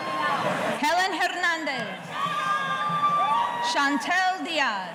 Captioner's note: audience cheering